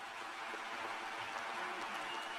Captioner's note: applause